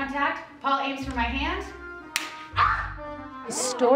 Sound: slapping sound

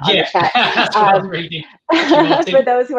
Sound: laughs

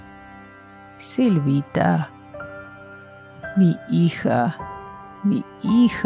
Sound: speaking in foreign language

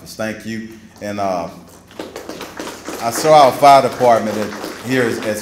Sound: applause

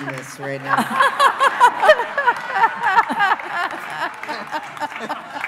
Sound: laughing

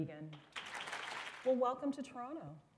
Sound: applause

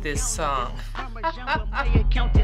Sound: laughing

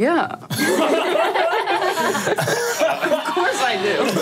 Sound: all laughing

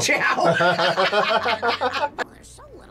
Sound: both laugh

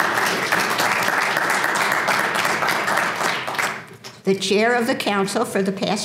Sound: applause

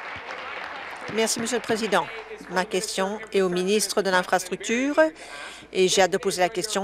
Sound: applause

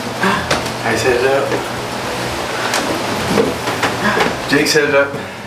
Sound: gasps

